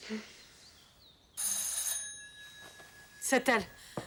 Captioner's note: doorbell ringing